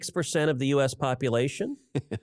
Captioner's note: laughter